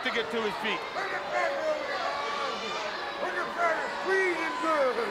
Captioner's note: Colonel Parker yelling